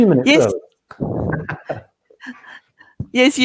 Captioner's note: laughs